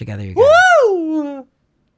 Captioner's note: screams